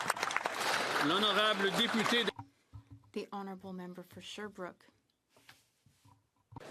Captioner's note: some Applause